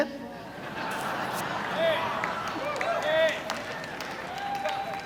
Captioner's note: audience laughs